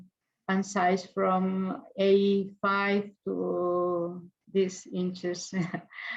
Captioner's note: chuckles